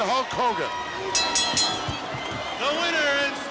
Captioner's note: bell rings